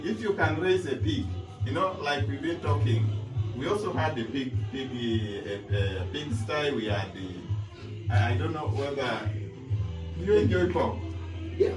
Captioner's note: joking/Laughter